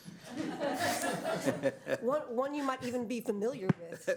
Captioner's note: laughter